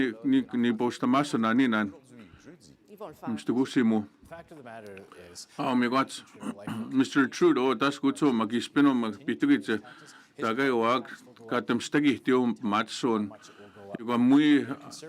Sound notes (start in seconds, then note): 5.1 speaking French